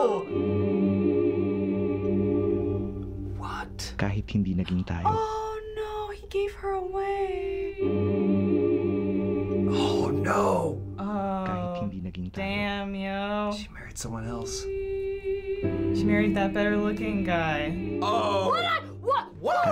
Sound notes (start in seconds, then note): 0.0 sentimental music; 4.2 man speaks Filipino